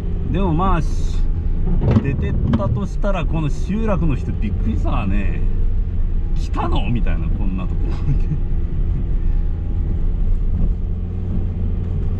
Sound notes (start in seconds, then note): 7.9 laughs